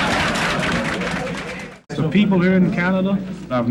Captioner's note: crowd laughs